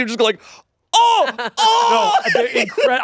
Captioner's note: laughs